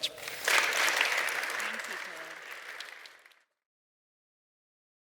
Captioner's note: audience applauding